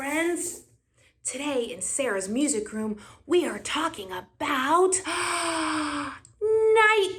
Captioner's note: gasp